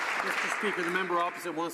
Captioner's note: some Applause